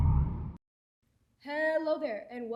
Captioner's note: whale sounds